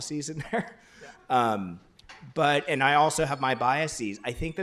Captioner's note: laughs